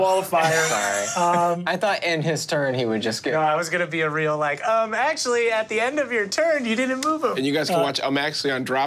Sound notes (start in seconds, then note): 0.4 laughing